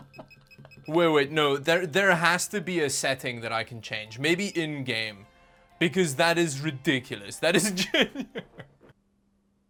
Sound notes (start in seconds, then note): 0.0 laughs more; 7.6 laughs